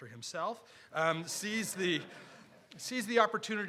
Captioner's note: audience laughing